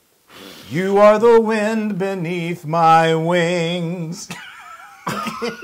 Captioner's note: laugh